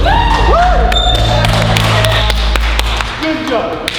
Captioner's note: clapping